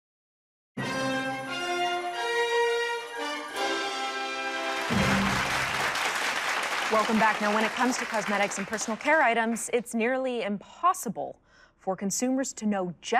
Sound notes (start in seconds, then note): 0.8 dramatic music; 4.4 applause